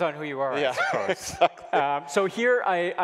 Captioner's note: both laughing